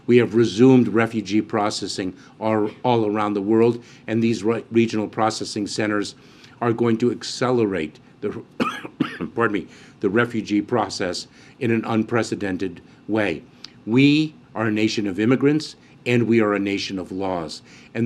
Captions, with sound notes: We have resumed refugee processing ar- -- all around the world. And these regional processing centers are going to accelerate the -- (coughs) -- pardon me -- the refugee process in an unprecedented way. We are a nation of immigrants, and we are a nation of laws.